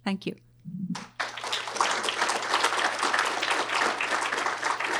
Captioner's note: audience applause